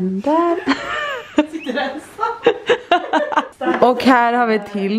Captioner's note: laughter